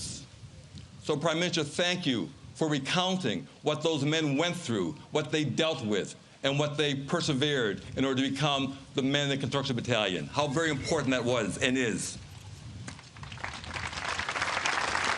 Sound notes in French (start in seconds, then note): 4.0 Voix en Anglais